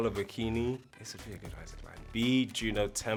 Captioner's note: whispering